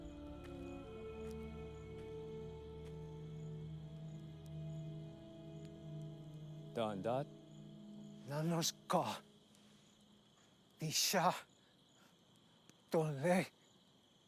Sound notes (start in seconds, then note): 6.6 speaking in foreign language